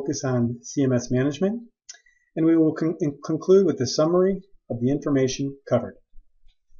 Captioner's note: click